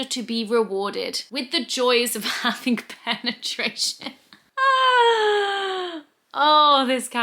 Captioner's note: laughs